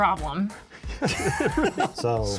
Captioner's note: all laugh